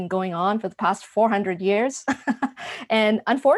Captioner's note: laughs